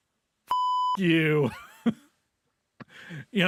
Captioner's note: laughs